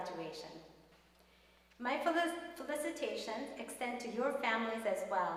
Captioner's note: none